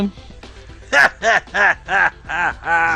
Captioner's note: laughing like a goblin